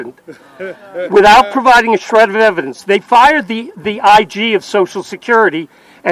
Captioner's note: laughter